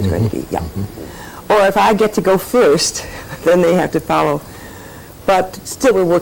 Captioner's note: laughs